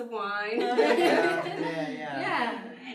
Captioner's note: everyone laughs